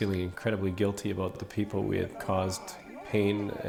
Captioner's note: laughs